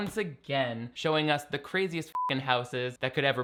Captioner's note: beeping